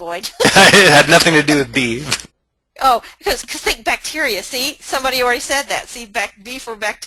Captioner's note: laughs